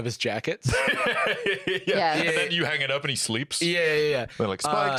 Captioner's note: laughs